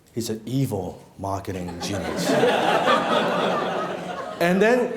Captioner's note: laughing